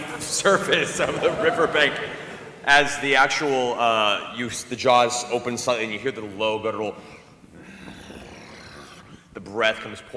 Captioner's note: growling